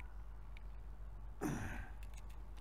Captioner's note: grunting